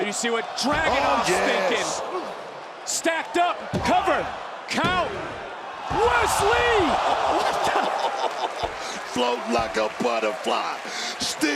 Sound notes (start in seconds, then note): 7.4 laughs